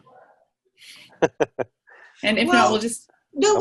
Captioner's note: laughter